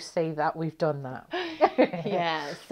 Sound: laughing

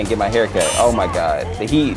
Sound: beep

